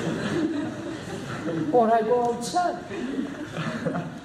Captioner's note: laughter